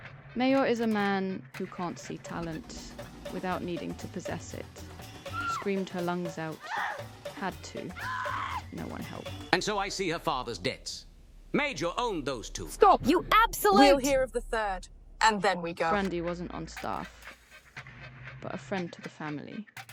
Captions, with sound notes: Meijor is a man who can't see talent without needing to possess it. (Ms. Wish screams) Screamed her lungs out. Had to, no one helped. - And so I see her father's debts. Meijor owned those two. - Stop. - You absolute. - We're here of the third and then we go. Brandy wasn't on staff but a friend to the family.